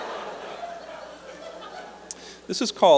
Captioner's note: laughter